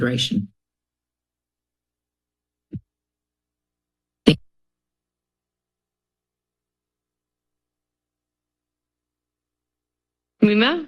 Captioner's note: silence